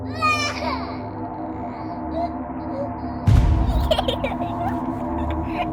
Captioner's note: baby crying loudly; baby giggling eerily